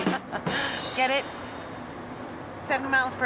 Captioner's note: laughs